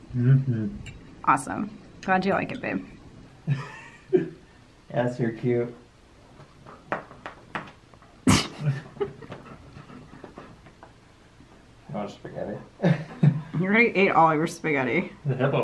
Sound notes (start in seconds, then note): 3.4 laughing; 8.2 laughing